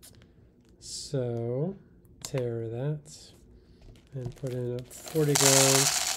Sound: beans rattling

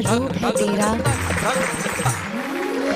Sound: speaking in native language; applause

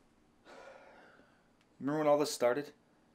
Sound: sighs

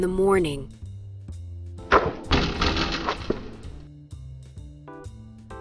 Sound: ball hitting backboard

